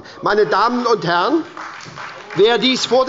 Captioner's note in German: Beifall bei der SPD